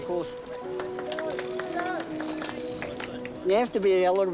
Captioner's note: cheering, applause